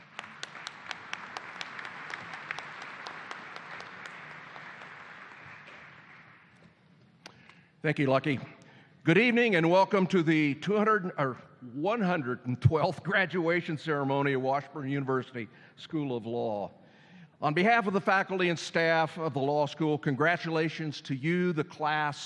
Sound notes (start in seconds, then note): 1.9 applause